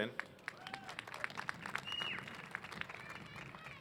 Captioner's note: applause